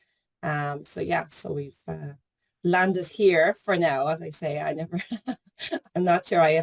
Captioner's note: laughs